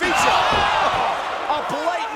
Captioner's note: crowd gasping